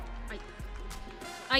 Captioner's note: audience cheering